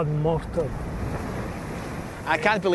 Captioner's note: waves crashing